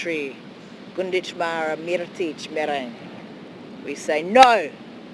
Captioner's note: speaks in foreign language